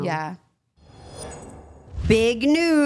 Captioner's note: logo whooshing